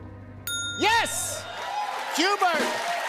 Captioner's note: ding!